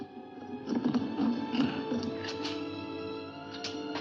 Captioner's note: loud grinding sound